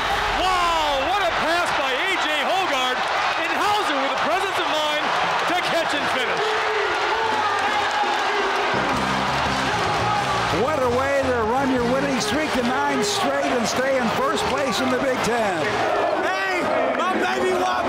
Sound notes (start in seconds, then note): 6.5 crowd roaring